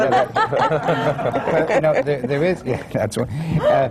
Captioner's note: laughter